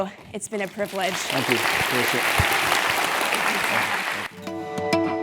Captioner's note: applause